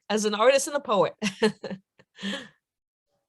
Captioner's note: laughter